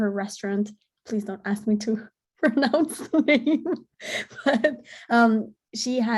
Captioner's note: laughing